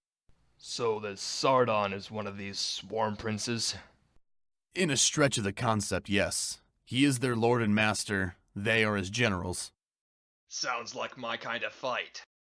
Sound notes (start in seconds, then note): none